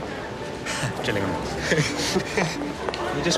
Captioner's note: laughs